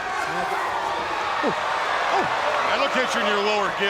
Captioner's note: crowd riling up